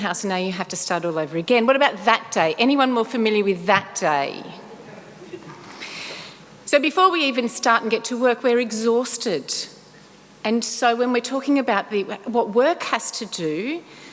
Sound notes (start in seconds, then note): 5.0 light laughter